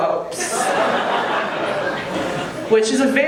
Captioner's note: audience laughing